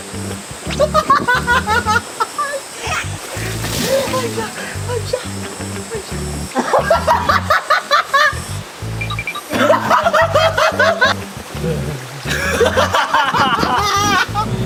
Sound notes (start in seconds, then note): 3.2 fails to hold in laughter